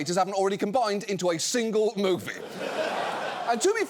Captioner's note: audience laughs